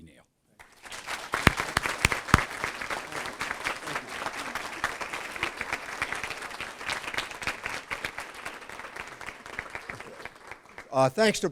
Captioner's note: applause